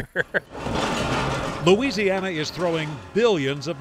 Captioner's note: laughs; rocks clinking